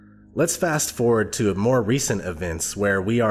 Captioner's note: voiceover